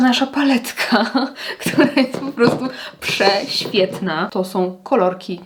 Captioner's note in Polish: śmiech